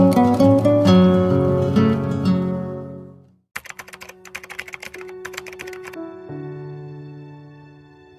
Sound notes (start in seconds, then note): 3.6 keys clicking